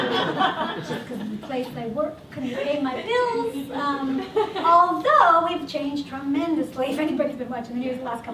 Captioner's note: laughter